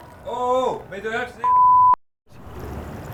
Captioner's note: beep